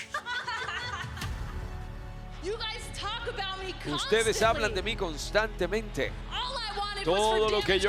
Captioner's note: laugh